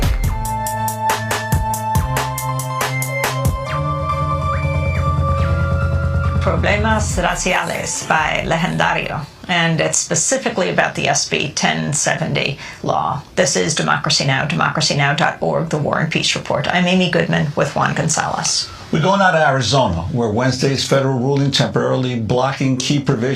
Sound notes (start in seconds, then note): 5.1 foreign Language Spoken